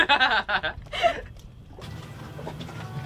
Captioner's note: both laugh